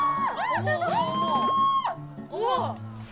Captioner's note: shout